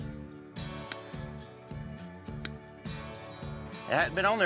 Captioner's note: cutting sounds